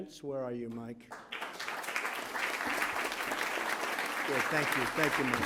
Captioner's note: applause